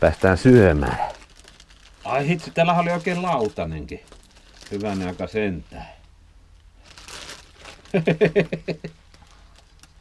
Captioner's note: laughter